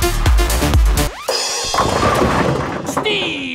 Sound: bowling pins falling

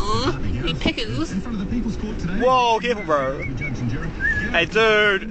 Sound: whistling

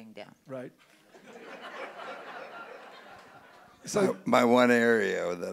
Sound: audience laughing

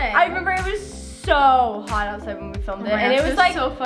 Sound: none

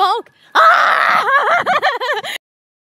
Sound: screams, cries

